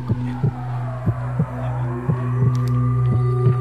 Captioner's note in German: Alarmtöne